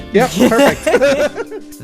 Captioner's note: yet more laughter